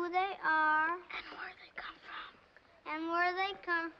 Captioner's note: whispers